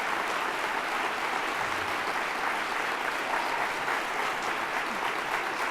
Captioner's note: applause